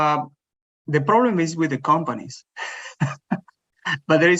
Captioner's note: laughs